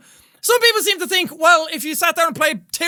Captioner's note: sassy tone